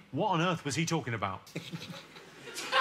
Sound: sensible chuckle

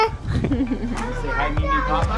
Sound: laughter

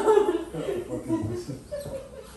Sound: laughing

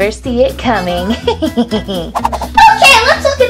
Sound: evil laughter

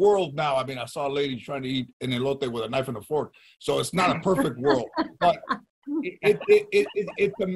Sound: laughing

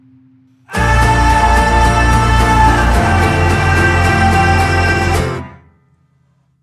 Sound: ahhhhh

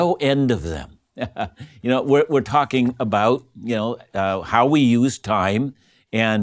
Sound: laughing

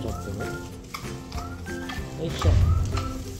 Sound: tap tap tap

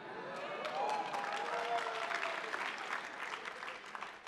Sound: attendees applauding

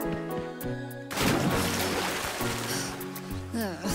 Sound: splash

